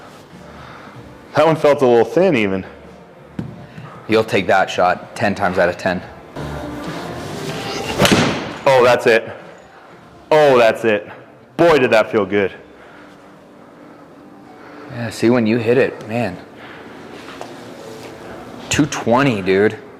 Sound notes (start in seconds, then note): 3.4 club thuds; 7.7 club thuds